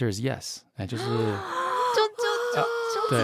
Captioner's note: surprised deep breath